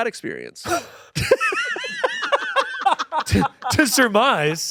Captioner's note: everyone laughing